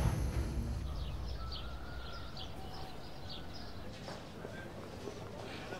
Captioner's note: birds chirping noises